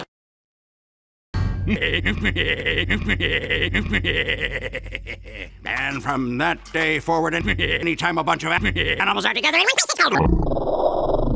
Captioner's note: extreme giggling